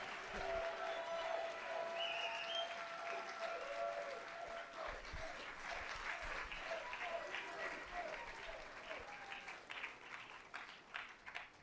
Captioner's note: applause